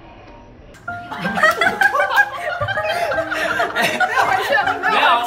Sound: laugh

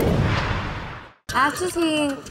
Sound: whooshing

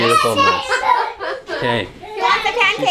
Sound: laughing

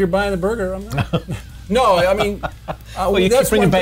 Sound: laughs

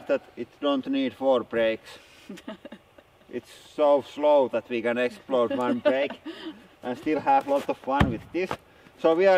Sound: laughing

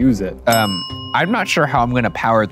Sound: bell rings

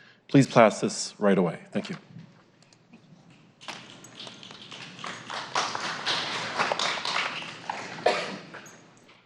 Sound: applause

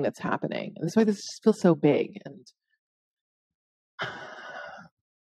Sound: exhaling

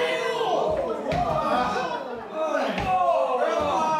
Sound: FLASH and PETER groaning

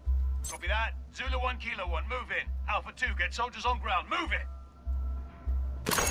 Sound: radio

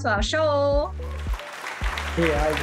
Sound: claps

